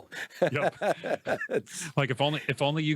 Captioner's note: laughs